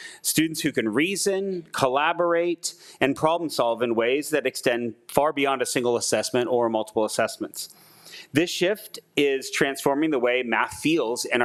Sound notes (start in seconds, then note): none